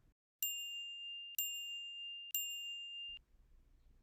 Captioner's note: chiming